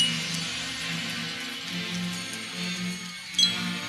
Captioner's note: none